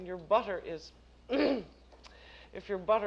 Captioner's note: clears throat